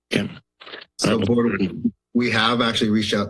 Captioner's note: microphone static